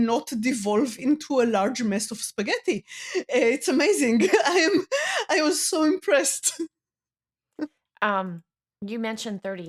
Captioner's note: laughs